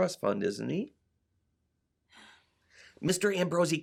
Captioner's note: sigh!